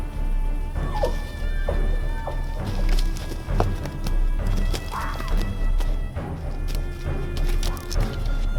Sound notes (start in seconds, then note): 0.0 wild animals hooting